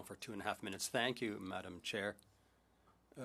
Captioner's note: speaking in French